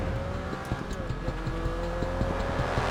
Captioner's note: motorcycle whizzing; intense music